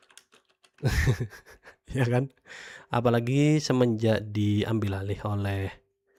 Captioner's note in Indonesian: tertawa